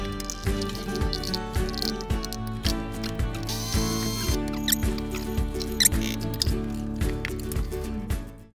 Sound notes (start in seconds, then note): 3.7 blender whizzing; 4.7 squeaking